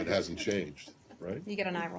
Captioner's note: laughter